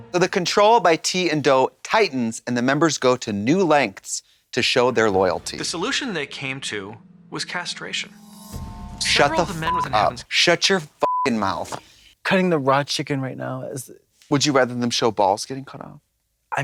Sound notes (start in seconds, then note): 8.5 dramatic music; 9.1 beep